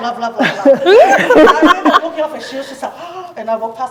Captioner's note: gasps